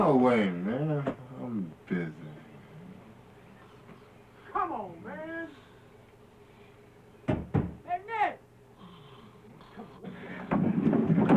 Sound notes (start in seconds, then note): 7.3 knocking